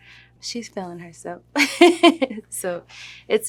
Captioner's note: laughs